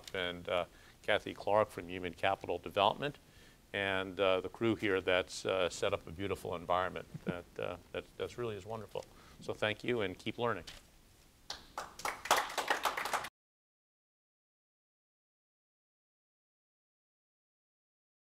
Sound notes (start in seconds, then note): 11.5 applause